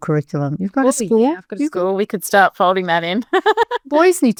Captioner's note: laughs